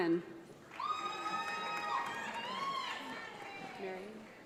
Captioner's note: audience applauds